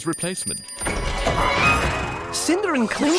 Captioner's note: bell ringing